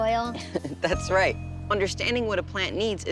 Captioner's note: chuckles